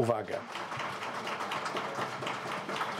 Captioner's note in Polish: oklaski